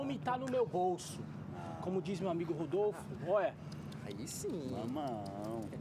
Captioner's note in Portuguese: estalando a boca